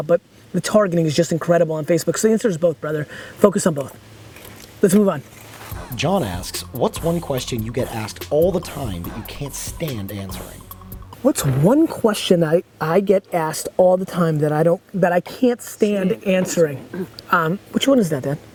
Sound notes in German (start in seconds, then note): 5.2 Voice-over